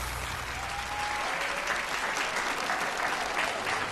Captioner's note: audience applauding